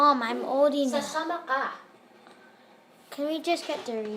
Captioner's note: mom speaking in foreign language